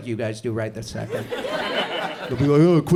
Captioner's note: audience chuckles